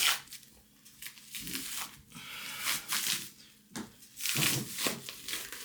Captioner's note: plastic crinkling